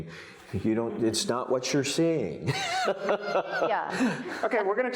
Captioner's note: laughs